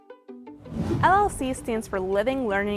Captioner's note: upbeat music; wind whooshing